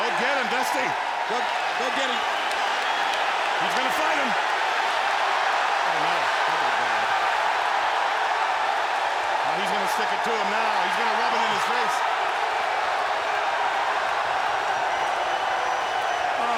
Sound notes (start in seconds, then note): 0.0 audience cheers; 4.7 audience cheers